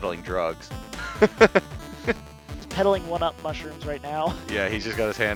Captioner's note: laughs